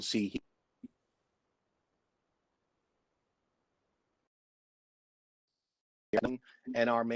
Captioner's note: audio drops